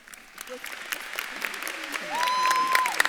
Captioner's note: audience claps and cheers